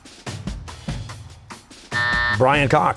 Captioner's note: buzzer